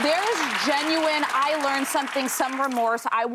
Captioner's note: applause